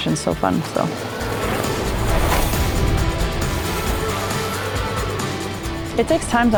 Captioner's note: upbeat music; bikes whizzing